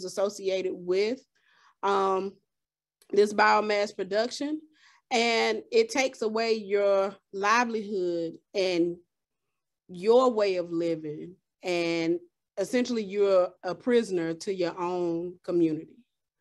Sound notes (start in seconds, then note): none